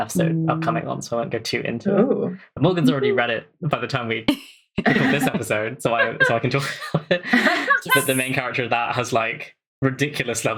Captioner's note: laughs; laughing